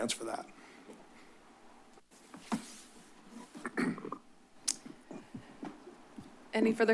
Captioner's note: silence